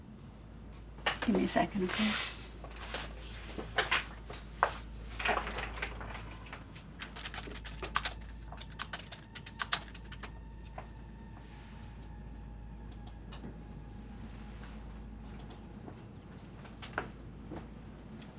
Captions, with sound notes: - Give me a second, okay? (keys striking) (soft dramatic music)